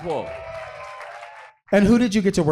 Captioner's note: audience cheering